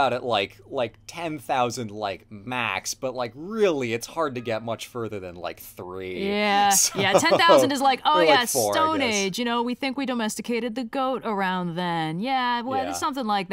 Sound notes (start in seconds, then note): 6.8 laughs